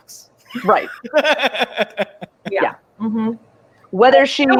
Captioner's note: laughs